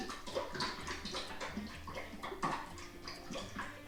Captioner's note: sloshing dressing